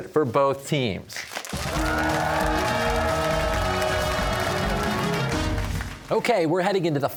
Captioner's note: cheers and applause